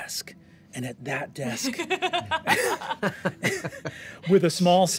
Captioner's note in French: rires